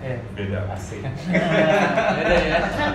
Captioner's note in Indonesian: tertawa